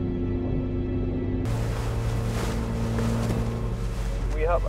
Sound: boat engines hum

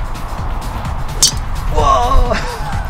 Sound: golf ball impact sound

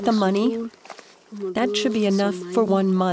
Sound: speaking in foreign language

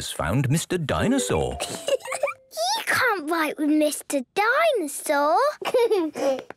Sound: giggling

